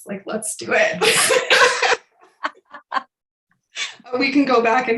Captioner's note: laughs